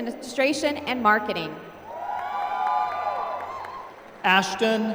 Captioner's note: applause